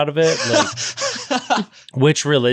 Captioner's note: laughing